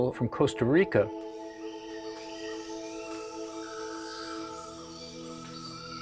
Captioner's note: birds and wildlife singing